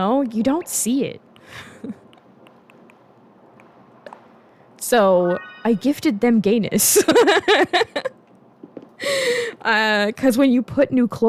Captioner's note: laughter